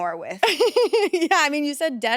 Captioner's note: laughs